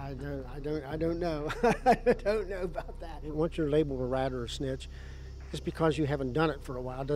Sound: laughs

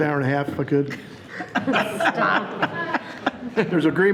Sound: people laughing

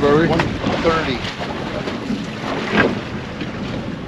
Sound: water lapping

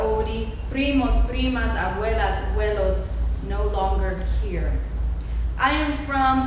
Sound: speaking foreign language

